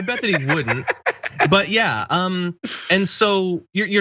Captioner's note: laugh